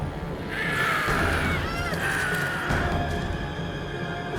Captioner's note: squawking